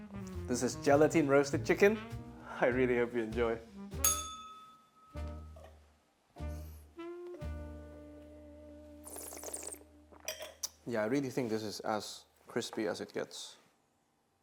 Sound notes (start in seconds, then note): 4.0 bell rings; 9.0 slurps